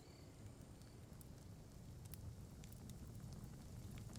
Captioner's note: fire crackling